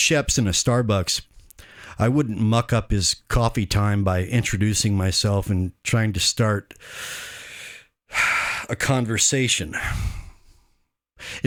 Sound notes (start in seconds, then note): 7.0 sigh